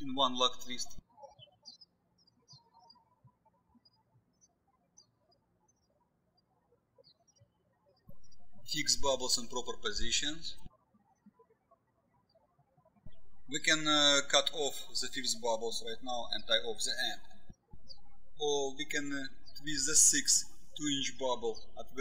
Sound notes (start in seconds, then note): 2.3 birds chirping; 11.3 birds chirping